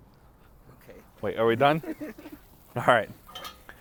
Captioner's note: laughs